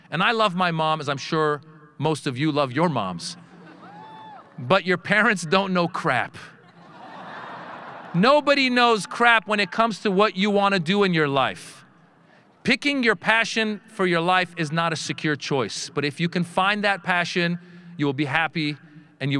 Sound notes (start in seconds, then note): 3.5 audience laughing; 6.6 audience laughing